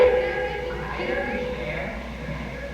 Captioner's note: echoes